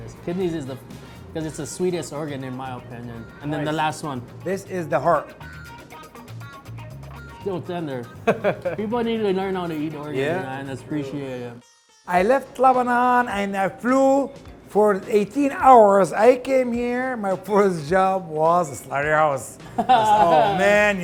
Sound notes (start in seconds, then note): 8.2 laughter